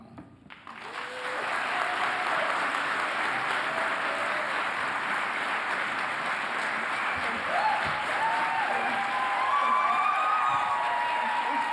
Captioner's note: applause